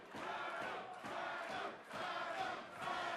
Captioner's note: fans chanting